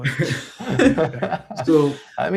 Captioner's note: laughter